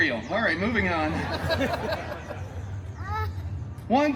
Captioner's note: guests laughing